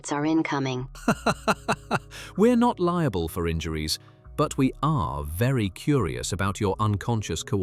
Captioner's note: laughing